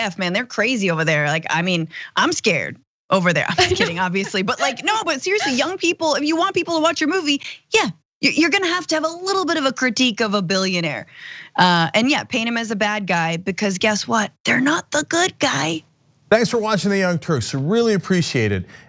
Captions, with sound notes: they're crazy over there, I mean, I'm scared over there. [LAUGH] >> I'm just kidding, obviously, but no, but seriously, young people, if you want people to watch your movie, yeah, you're going to have to have a little bit of a critique of a billionaire, and yeah, paint him as a bad guy, because guess what, they're not the good guy.